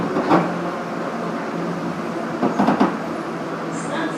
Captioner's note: braking - arrival at the station